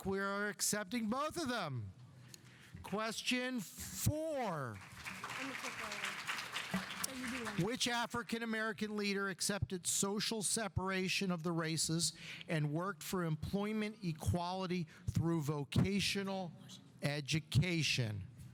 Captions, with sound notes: We're accepting both of them. Question four. (audience applauding) Which African American leader accepted social separation of the races and worked for employment equality through vocational education?